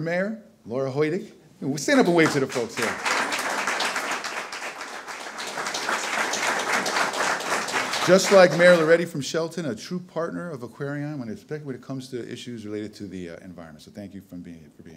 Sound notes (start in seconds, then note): 3.9 audience applause